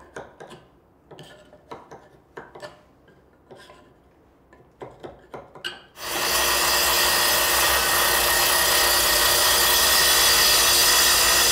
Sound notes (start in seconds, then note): 0.1 tool scraping; 4.7 tool scraping; 5.9 saw whirring